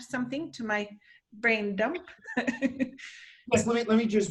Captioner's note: chuckles